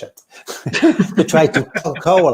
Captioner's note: laughs